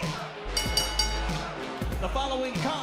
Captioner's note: bell ringing